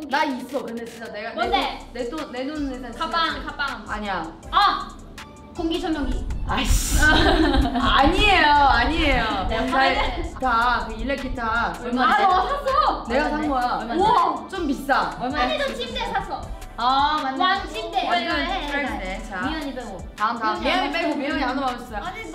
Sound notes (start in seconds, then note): 0.1 speaks in Korean